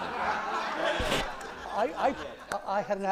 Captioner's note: laughter